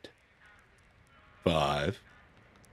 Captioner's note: the lights whine